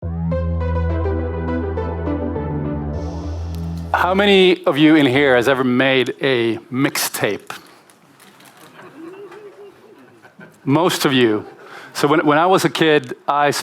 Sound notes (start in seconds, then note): 8.6 laughter in the audience